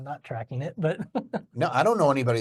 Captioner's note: chuckles